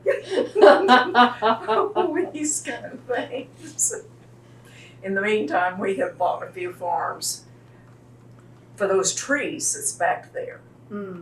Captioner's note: laughter